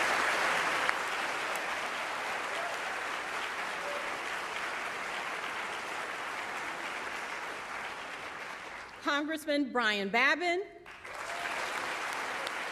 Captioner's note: applause